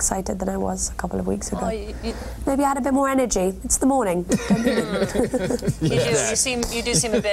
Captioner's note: anchors laugh aquardly